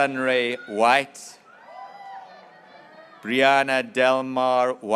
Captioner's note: graduates cheering